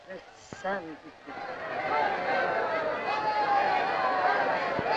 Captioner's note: crowd shouting